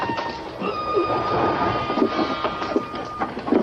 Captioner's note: straining